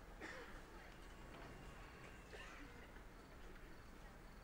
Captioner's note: attendee coughing